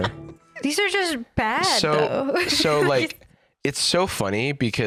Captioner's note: laughs